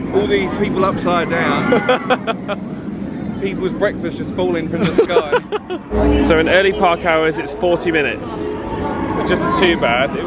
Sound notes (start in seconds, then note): 1.6 laughs; 4.8 laughs